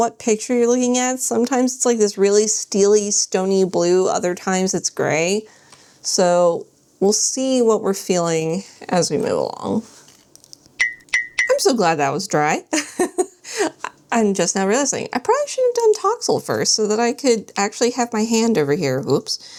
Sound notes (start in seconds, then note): 10.8 chime sounds